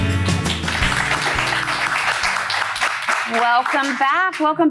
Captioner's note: upbeat music; applause